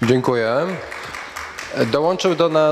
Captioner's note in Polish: oklaski